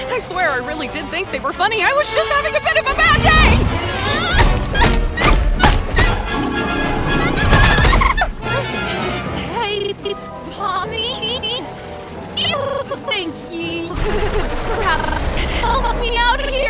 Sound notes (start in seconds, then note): 2.8 Ragatha groaning; 2.9 blows thudding